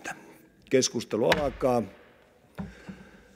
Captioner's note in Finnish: kopauttaa nuijaa